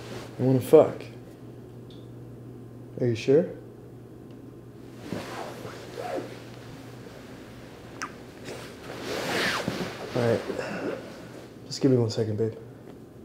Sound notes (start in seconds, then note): 8.0 kisses